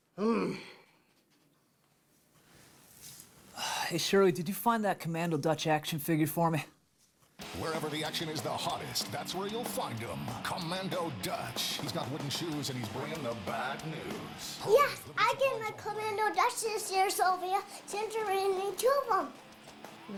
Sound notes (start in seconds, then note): 0.2 grumbles; 7.3 voice on tv